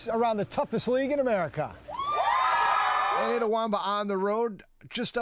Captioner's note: cheering